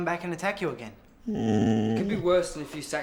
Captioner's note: growls